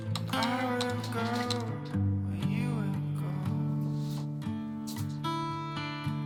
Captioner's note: keyboard clapping